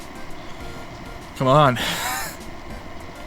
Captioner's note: wheeze